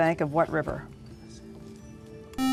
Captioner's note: buzzer